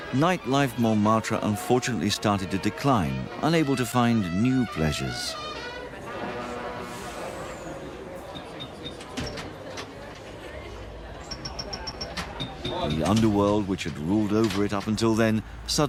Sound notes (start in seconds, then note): 5.8 people chattering; 9.0 pinball machine tinkles